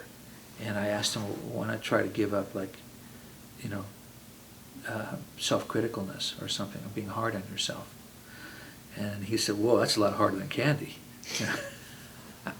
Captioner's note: laughs